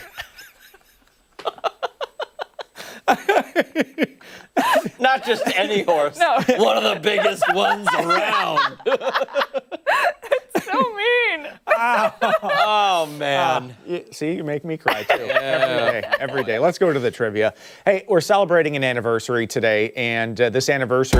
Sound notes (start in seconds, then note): 6.2 laughter